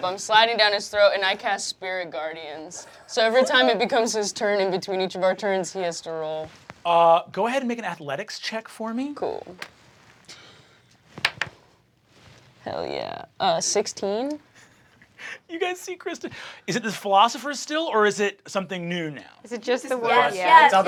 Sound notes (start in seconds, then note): 11.2 dice clattering; 15.1 laughing